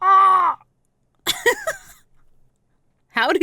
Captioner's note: laughing